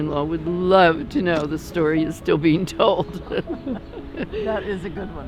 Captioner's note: laughs